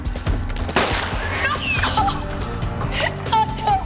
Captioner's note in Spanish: Disparo; Gritos